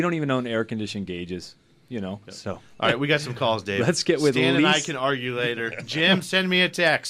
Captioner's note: laughs